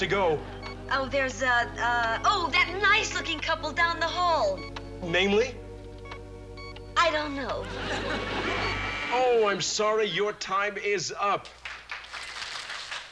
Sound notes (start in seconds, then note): 8.4 buzzer; 11.4 applause